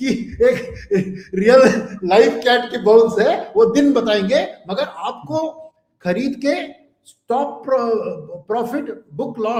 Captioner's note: laughs